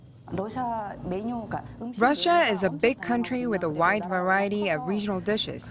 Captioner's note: Korean